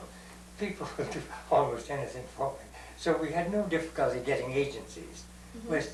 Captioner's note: laughs